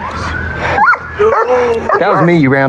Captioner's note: dogog b barks